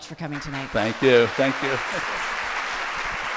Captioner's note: laughs; audience applauding